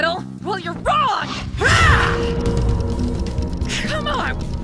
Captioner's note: dials ticking